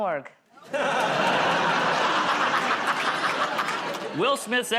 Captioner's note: laughter